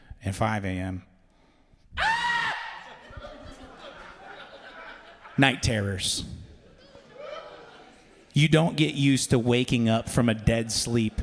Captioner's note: scream